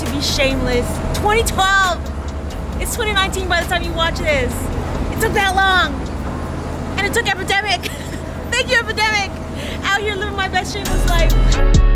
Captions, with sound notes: to be Shameless. 2012! It's 2019 by the time you watch this. It took that long. And it took Epidemic. (laughs) Thank you Epidemic, out here living my best Shameless life.